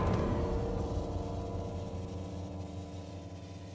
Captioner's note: steam hissing